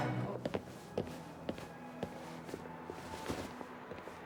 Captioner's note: heels clinking